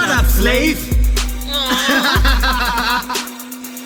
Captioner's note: laugh